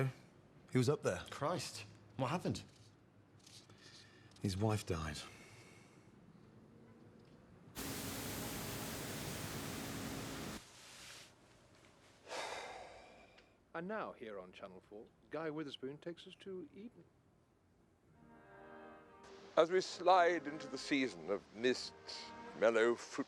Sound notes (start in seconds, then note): 7.8 engine rumbling; 12.2 Rob sighs